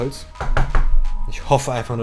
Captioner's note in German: aggressives klopfen